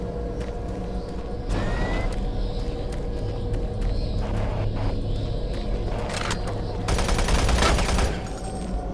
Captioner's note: gun firing